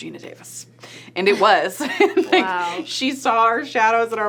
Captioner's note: laughs